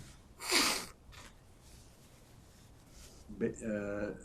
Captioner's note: wiping nose